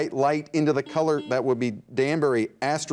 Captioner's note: buzzer dings